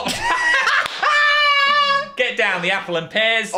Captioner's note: both laugh